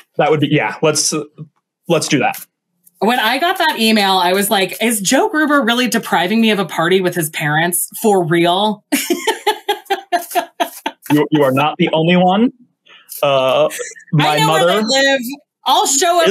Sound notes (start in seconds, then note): 8.9 laughs